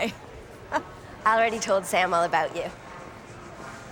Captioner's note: chuckles